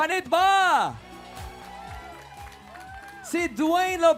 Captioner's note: audience cheering